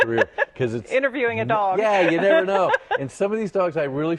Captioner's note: laughter